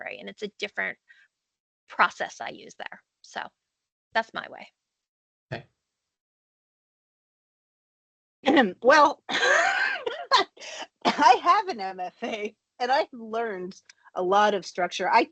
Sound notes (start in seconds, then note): 9.4 chuckles